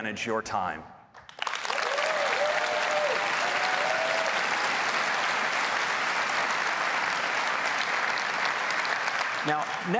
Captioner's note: applause